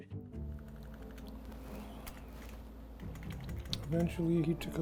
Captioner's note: computer keys clicking